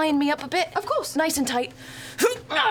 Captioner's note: grunts